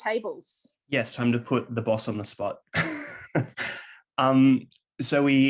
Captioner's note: laughs